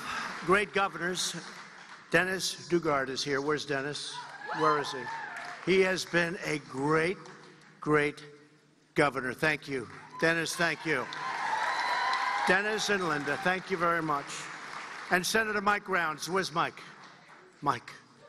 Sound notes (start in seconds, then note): 6.5 applause